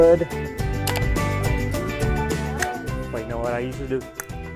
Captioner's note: chime clicks; mouth clicks; hands smacking